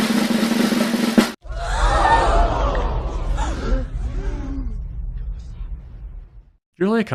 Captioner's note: drumroll; crowd gasping